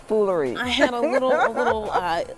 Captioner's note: reporter laughs